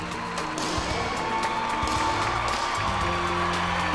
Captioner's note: gunshots